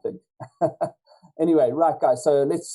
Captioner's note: chuckles